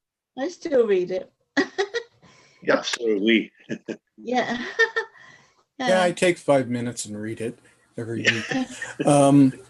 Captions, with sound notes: - I still read it (laughs) - Absolutely. - Yeah. - Yeah, I take five minutes and read it every week.